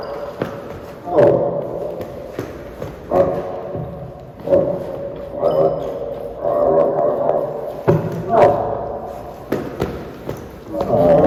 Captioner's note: growls